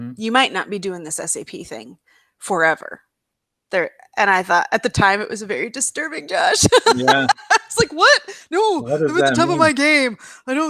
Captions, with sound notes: You might not be doing this SAP thing forever." I thought at the time it was a very disturbing, Josh. [laughs] I was like, "What? No. I’m at the top of my game.